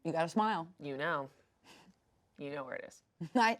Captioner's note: chuckles